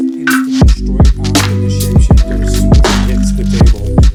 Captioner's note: murmuring